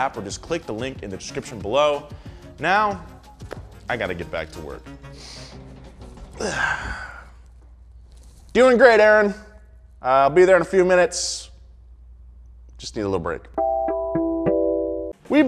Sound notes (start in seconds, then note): 5.0 inhales and exhales; 13.5 gentle music